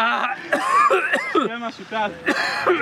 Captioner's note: caughing real hard